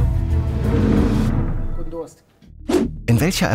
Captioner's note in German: Stöhnen